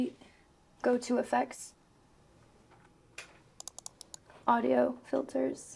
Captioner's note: mouse clicks